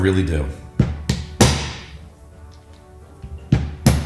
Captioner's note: hammer banging